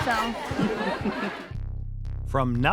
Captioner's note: laughs